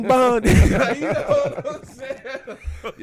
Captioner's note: laughing